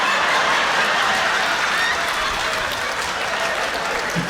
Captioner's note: laughter, cheers and applause